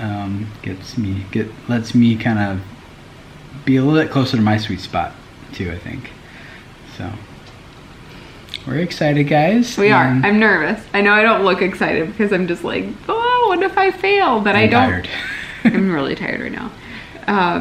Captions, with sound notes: it lets me be a little bit closer to my sweet spot, too I think so. We're excited guys. - We are, I'm nervous. I know I don't look excited because I'm just like oh what if I fail, but I don't - And tired (laughs) - I'm really tired right now.